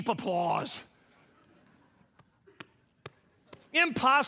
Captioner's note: audience laughing